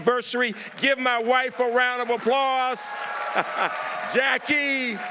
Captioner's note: laughs